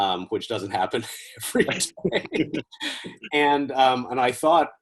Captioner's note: laughs